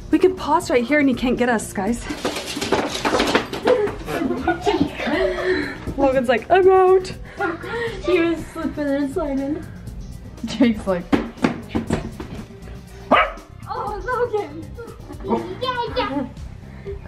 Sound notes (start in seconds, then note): 13.0 dog barking